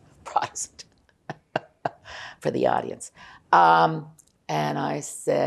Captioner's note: laughing